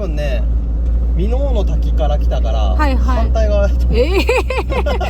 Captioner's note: laughs